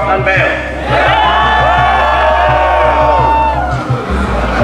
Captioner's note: crowd cheering